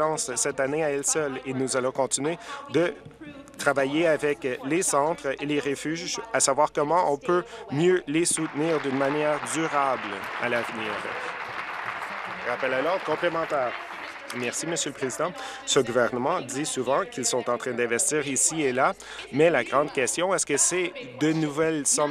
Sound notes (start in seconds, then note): 12.6 applause